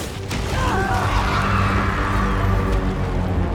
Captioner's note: all screaming